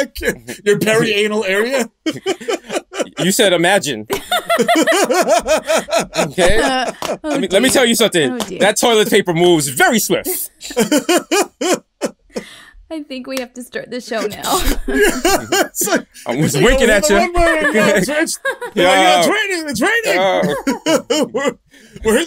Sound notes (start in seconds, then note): 4.1 laughter; 10.2 laughter